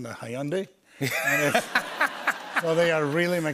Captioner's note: laughter